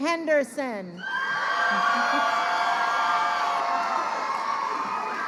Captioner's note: crowd cheering